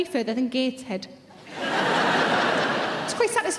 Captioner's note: audience laughing